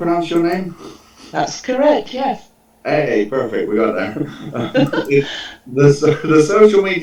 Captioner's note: chuckles